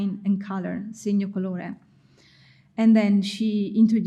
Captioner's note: speaking in foreign language